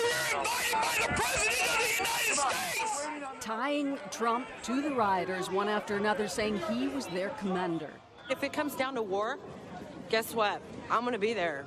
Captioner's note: yelling